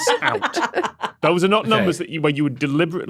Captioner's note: laugh